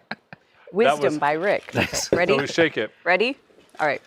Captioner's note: laughter